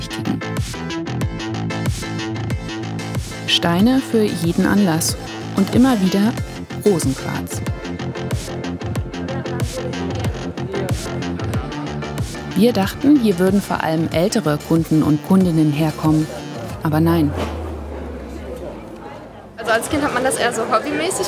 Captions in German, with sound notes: (Treibende Musik) Steine für jeden Anlass und immer wieder Rosenquarz. (Treibende Musik) Wir dachten, hier würden vor allem ältere Kundinnen und Kunden herkommen. Aber nein. (Stimmengewirr) Als Kind hat man das eher so hobbymäßig gesammelt.